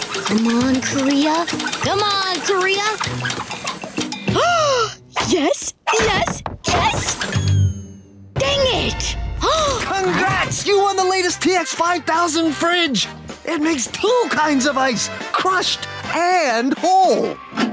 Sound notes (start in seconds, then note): 4.3 gasping; 9.4 gasping